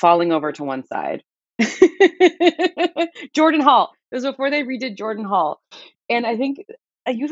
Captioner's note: laughter